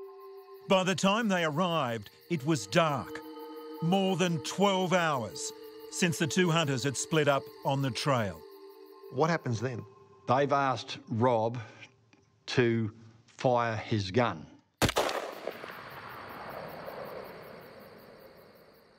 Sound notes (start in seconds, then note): 14.8 gun shot fires